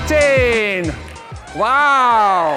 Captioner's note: cheers and applause